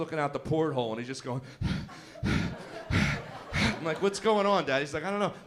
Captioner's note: panting noise